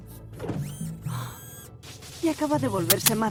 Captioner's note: gasps